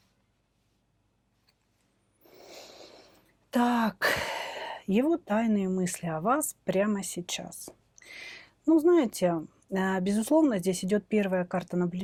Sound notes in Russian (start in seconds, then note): 4.0 вздыхает; 4.0 тяжело вздыхает